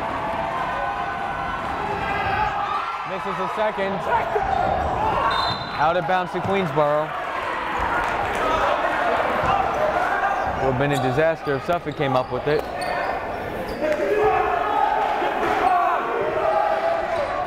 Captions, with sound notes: Misses his second. (cheering) (whistle blowing) Out of bounds to Queensborough (chattering) One minute disaster if Suffolk came up with it. (yelling)